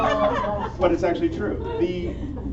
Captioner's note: laughter